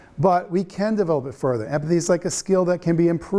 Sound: none

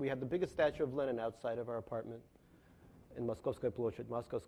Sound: speaks in foreign language

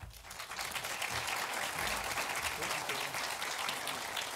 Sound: audience applauding

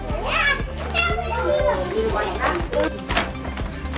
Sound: group chatting

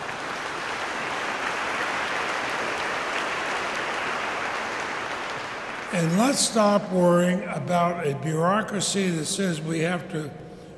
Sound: applause

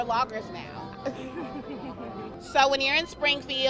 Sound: laughs

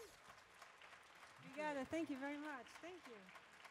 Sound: audience claps

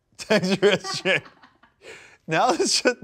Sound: laugh

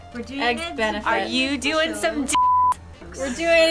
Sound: beep

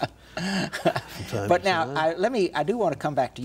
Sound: Ed laughs

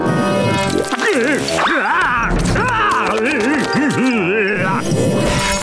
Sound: screaming

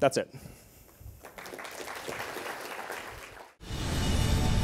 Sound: applause

